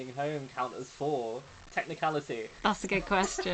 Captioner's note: laughs